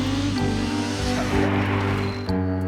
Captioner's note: engine revs; electronic beeping